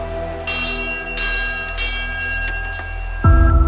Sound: bell rings

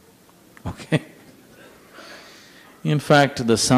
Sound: laughs

